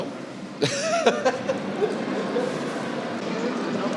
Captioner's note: laughs